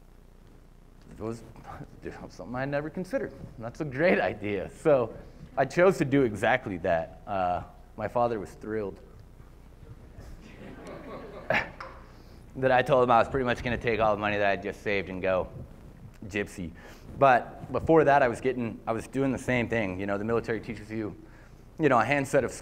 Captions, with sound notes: It was something I never considered, and that's a great idea. I chose to do exactly that. My father was thrilled [LAUGHTER] that I told him I was pretty much going to take all the money that I'd just saved and go gypsy. But before that, I was doing the same thing. The military teaches you a handset of